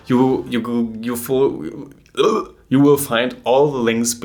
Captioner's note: German accent kicks in